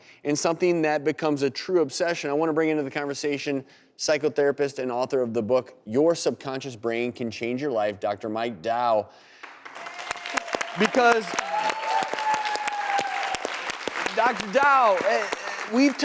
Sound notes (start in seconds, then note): 9.4 applause and cheers